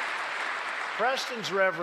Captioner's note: applause